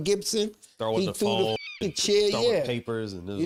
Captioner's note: eagle screeches